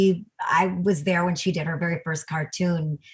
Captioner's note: none